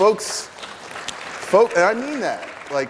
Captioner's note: applause